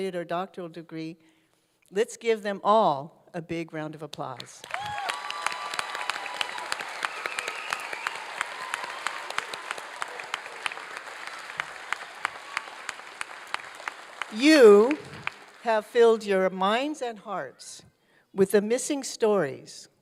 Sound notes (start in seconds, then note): 4.4 applause